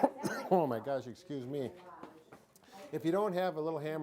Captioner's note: coughing